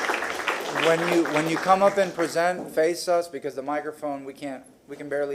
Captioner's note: applause